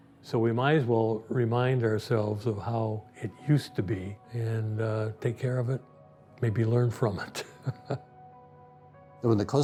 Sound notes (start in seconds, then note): 7.3 chuckling; 8.5 gentle music